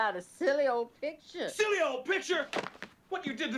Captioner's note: shouting